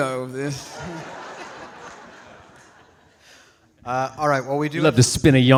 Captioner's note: audience laughing